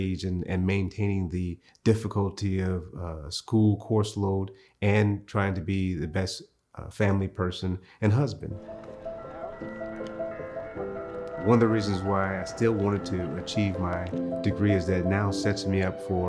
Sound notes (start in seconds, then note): 9.0 gentle piano music; 10.0 Purdue Bell Tower clanging